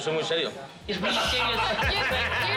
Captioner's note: laughter